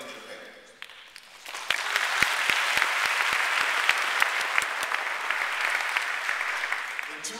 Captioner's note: applause